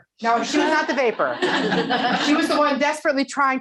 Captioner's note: laughing